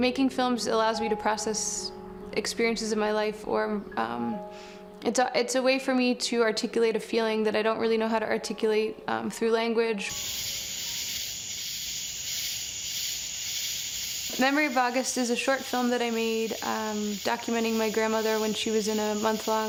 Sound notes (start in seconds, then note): 10.1 crickets chirping